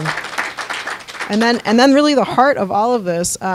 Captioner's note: applause